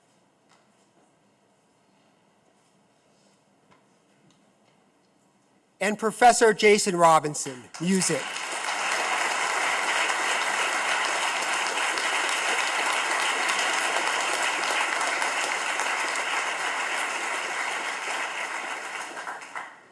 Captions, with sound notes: And Professor Jason Robinson, Music. (audience claps)